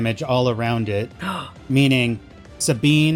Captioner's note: gasp